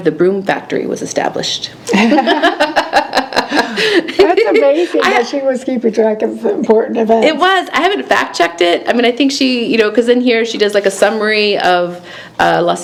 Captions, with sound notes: the Broom Factory was established. (laughing) - That's amazing that she was keeping track of important events. - It was, I haven't fact checked it. 'Cause in here she does like a summary of